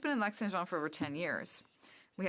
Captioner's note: speaking French